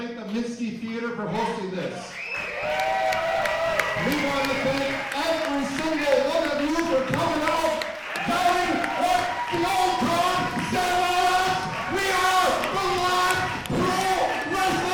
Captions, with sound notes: We wanna thank the Minnsky Theater for hosting this. (cheering) We wanna thank every single one of you for coming out. No matter what the old guard said about us! We are the Live Pro Wrestling Show